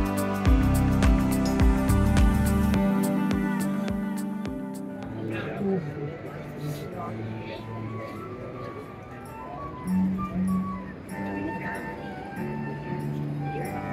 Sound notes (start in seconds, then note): 4.8 background chatter